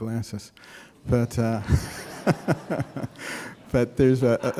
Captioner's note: laughter